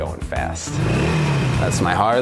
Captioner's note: engine revving